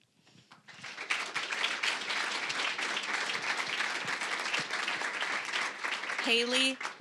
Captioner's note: applause